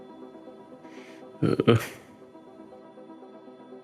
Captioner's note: audible fear